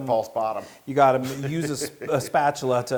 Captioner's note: laugh